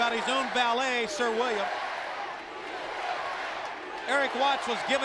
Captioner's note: crowd cheering